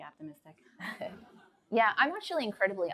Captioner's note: light laughter